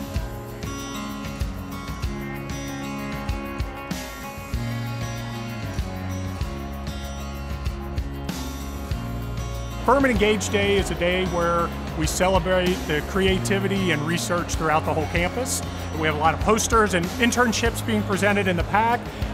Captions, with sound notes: - [Voiceover] Furman Engaged Day is a day where we celebrate the creativity and research throughout the whole campus. We have a lot of posters and internships being presented in the PAC